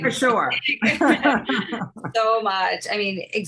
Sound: laughing

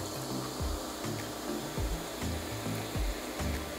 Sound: fizzing

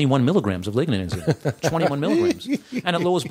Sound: laughter

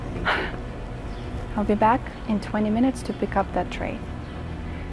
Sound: suspenseful music; sighs

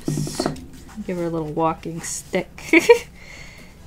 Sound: laughs

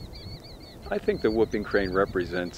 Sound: birds chirping

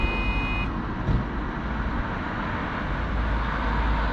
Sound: beeping stops

